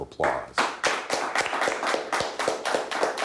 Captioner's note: clapping